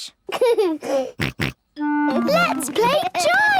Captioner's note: giggles, snorts